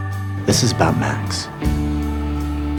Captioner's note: voiceover